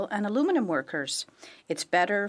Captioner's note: speaking French